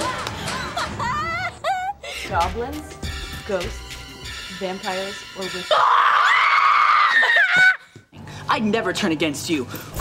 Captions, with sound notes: [laughing] Goblins, ghosts, vampires-- [screaming] I'd never turn against you!